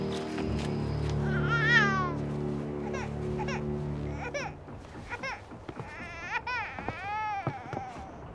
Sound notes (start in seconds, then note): 1.2 baby crying